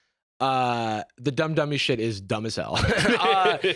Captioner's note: laughs